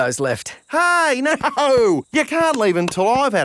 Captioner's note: laughing